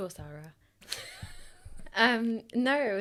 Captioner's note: giggles